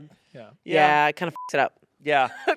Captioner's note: beep